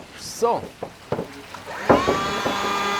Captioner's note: machine noises